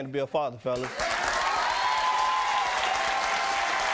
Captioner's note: applauding